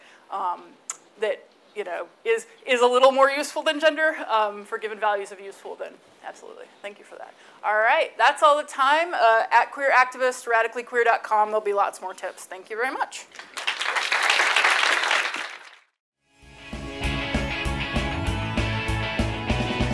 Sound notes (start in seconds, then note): 13.3 audience clapping; 16.4 lively music